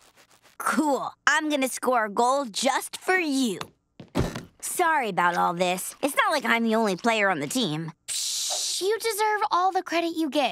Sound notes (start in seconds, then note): none